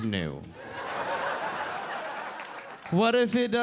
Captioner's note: audience laughing